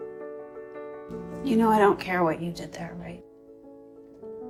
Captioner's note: voiceover